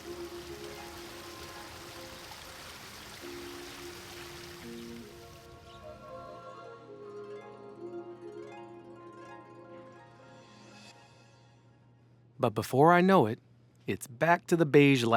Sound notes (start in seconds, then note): 0.0 water burbling; 0.3 light music continues; 5.8 birds chirping